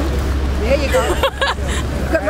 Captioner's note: laughter